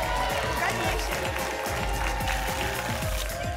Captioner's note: applause and cheering cont; tickets shuffling